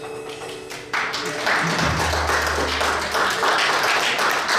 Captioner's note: audience applauds